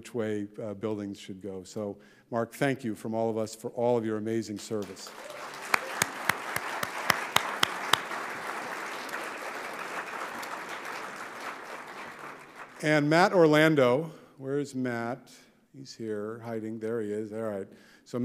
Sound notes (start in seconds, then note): 4.7 audience applauding